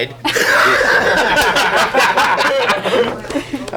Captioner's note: everyone laughs